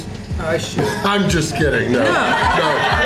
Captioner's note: crowd laughter